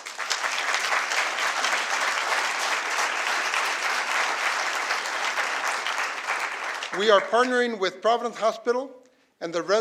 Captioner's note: applause